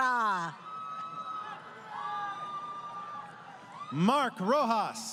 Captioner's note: crowd Cheering